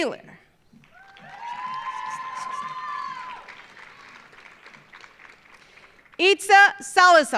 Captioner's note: audience applauding; audience cheering